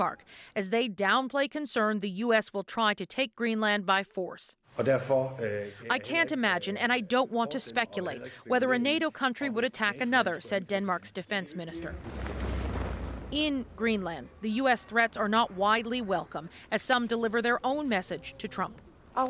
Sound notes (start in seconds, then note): 7.7 speaking alternate language